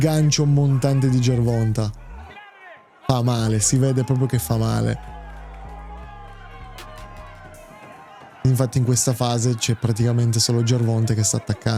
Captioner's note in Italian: Applauso